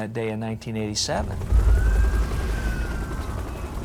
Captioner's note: police siren blaring